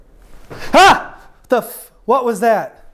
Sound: screams

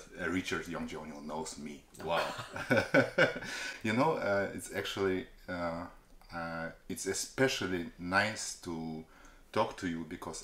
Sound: laugh

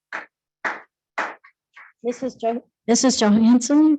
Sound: clapping

